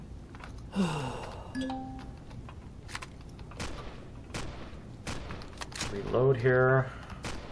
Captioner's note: guns clicking; guns reloading; shots firing; ding; incoming turret shots